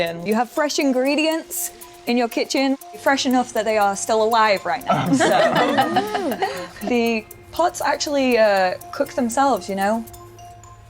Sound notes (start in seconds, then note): 4.9 laughing